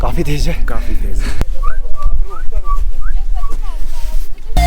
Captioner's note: whistles